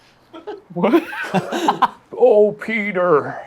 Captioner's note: laughs